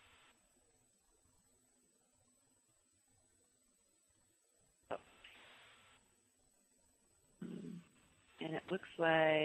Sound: pause

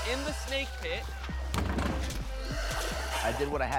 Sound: hissing

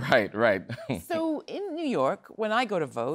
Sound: laughter

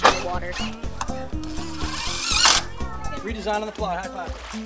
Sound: drilling

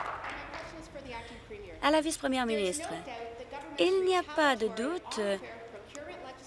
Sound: applause

